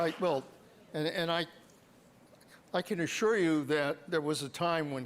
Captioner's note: applause